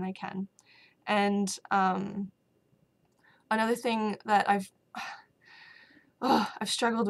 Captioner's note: sigh